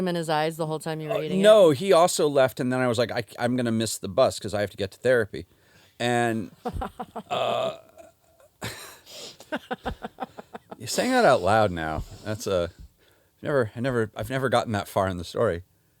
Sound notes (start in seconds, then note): 6.4 laughs